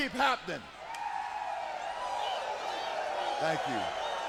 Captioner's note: audience cheering